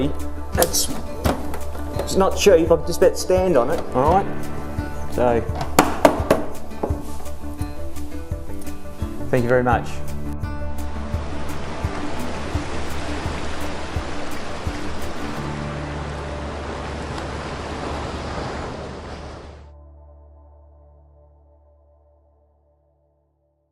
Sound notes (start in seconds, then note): 5.5 knocking; 10.9 ocean waves; 14.5 upbeat music